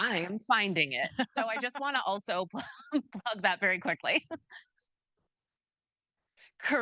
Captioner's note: chuckles